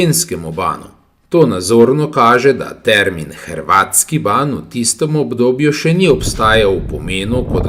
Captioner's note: Croatian